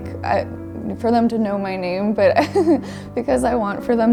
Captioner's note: chuckles